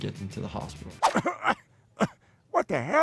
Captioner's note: Peter coughs